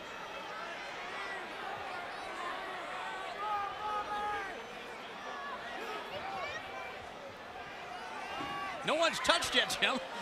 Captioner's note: crowd chatter